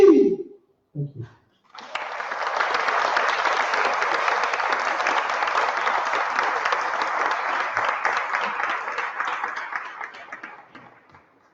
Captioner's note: applause